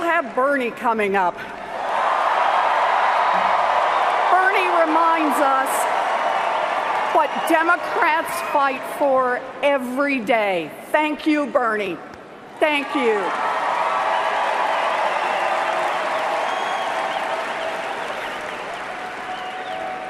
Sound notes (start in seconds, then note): 8.2 cheers and Applause